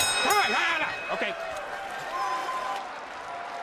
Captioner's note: bell rings